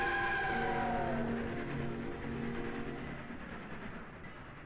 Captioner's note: train chugging